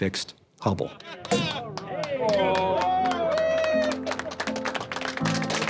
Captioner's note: cheering